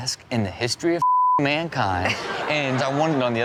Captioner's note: beep